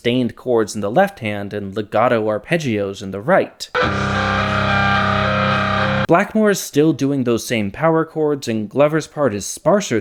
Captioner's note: bang